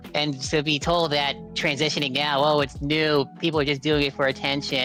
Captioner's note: none